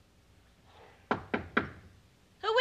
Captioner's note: knocking on door